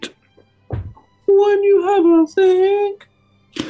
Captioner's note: falsetto